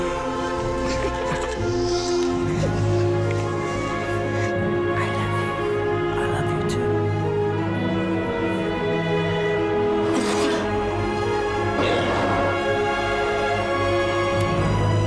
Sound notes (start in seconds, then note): 8.8 man coughs, gags